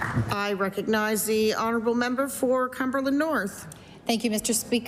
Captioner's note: applause